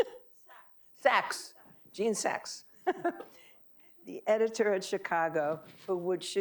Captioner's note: laughing